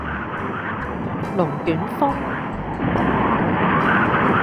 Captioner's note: tornado